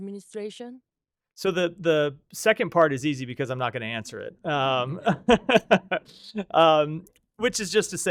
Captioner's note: laughter